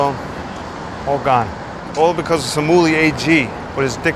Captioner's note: speaks foreign language